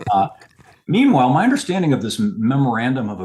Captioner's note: laughs